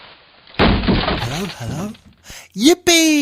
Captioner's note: quietly